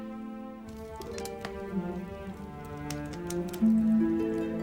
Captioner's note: fire crackling